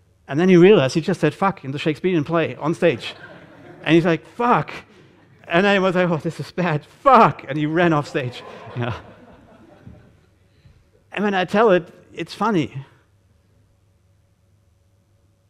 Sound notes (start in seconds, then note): 7.6 audience laughing